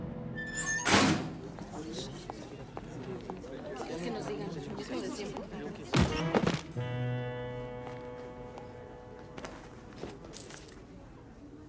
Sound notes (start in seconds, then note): 0.3 door squeaks and closes; 1.9 indistinct murmurs